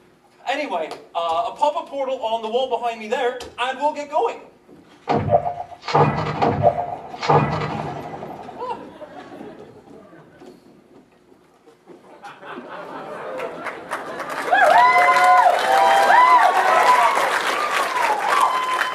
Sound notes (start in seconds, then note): 5.0 portal gun shooting; 13.2 cheering